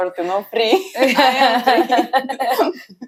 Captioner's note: laughs